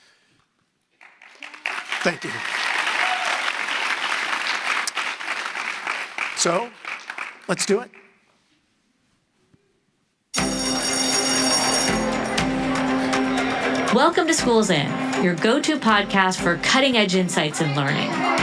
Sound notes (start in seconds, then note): 0.9 audience applauding; 10.3 bell ringing